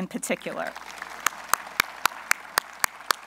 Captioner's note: applause